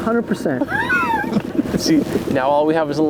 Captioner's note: laughter